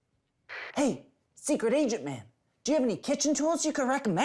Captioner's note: whispering